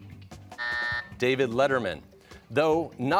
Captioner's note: buzzer